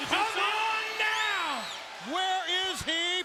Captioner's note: attendee whistling